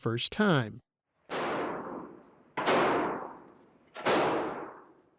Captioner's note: gunshots booming